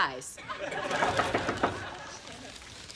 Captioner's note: knocking on door